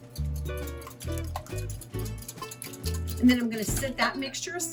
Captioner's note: mixture sloshing